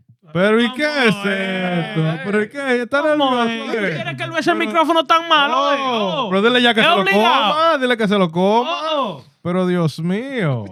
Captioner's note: speaking In Foreign Language